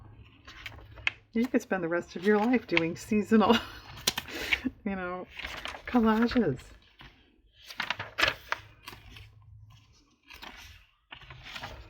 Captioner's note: laughs